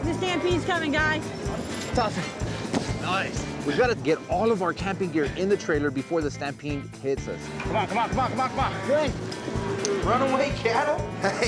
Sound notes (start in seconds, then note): 9.5 cattle stampeding